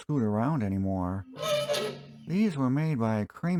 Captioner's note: creaking